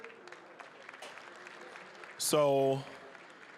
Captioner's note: applause